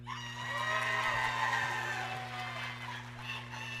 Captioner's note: audience cheering